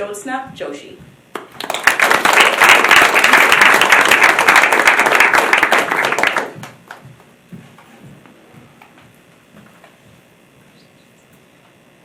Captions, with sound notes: Jyotsna Joshi, (applause)